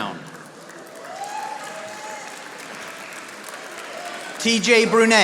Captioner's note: audience applauding